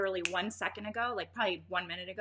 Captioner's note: finger snapping